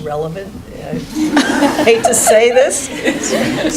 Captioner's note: laughing